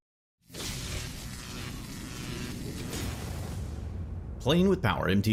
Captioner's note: card whooshes; lightening hissing and buzzing